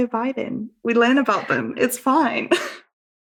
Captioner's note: laughs